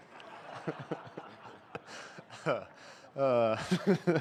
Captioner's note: laughter